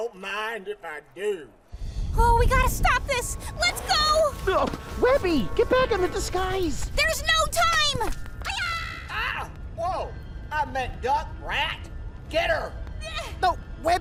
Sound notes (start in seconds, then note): 1.7 suspenseful music; 3.7 falls